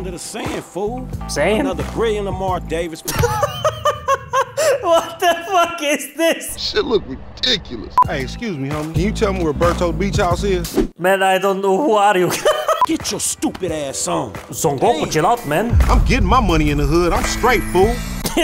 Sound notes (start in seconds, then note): 3.0 hahahahaha; 4.5 inhale